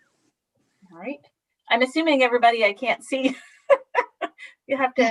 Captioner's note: laughs